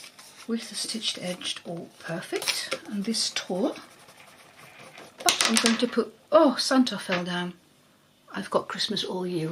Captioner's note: something falls